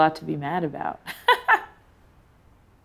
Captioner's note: laughs